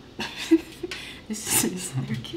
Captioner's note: laughing